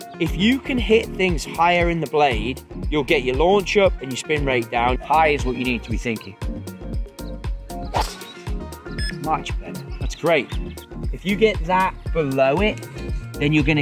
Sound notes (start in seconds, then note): 6.7 upbeat music; 7.9 golf club whacks